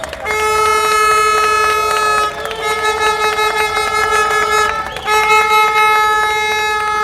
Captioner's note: applause